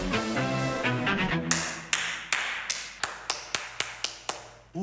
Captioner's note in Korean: 박수 소리